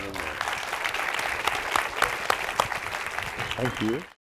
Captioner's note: applause